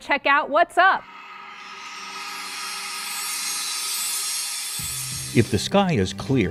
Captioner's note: sound Effects